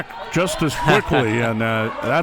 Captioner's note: chuckles